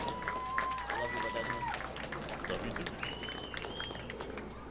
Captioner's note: audience applauding